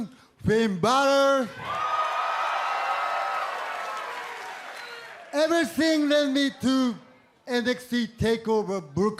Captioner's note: cheers and applause